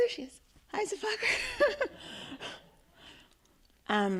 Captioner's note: laughing